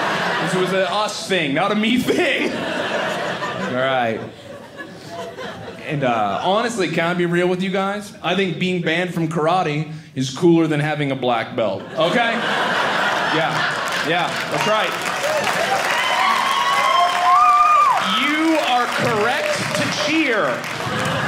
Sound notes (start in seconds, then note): 0.0 audience laughing; 11.7 audience laughing; 15.0 audience cheering